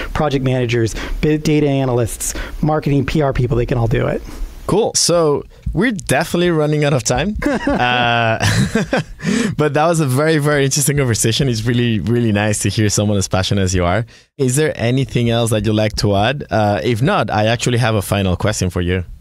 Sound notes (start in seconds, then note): 7.3 laughs